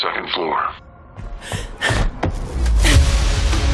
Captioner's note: Agent Dark inhales